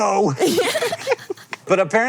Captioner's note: BOTH laugh